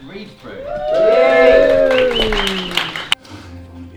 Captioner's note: cheering